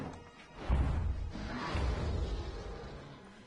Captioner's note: monster roaring